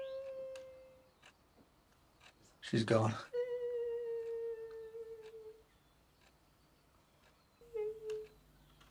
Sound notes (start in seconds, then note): 4.0 Mrs. Wells' voice echoing